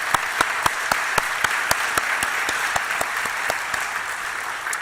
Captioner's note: applause